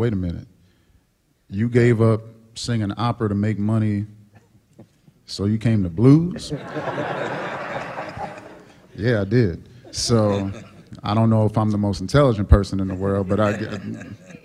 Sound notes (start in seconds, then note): 6.3 laughter